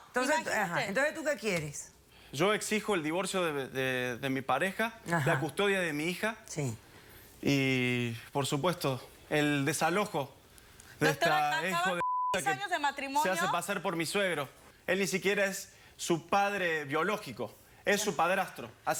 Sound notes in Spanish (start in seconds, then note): 12.0 Bip